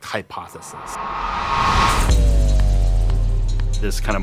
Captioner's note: object whooshing